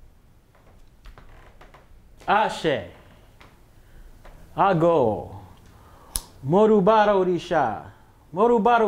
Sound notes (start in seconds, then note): 3.6 speaking Yaruba